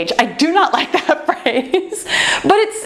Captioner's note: laughs